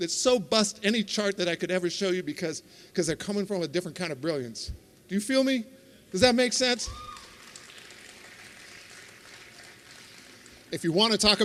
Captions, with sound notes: That so bust any chart that I could ever show you because because they're coming from a different kind of brilliance. Do you feel me? Does that make sense? (applause) If you want to talk